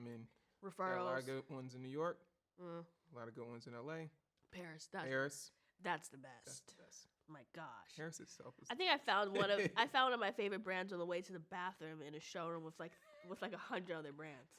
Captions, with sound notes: - I mean, there're a lot of good ones in New York. A lot of good ones in LA. - Paris. - Paris. - That's the best. - That's best. - Oh, my gosh. - Paris is selfless. (laughs) - I think I found of my favorite brands on the way to the bathroom in a showroom with like 100 other brands.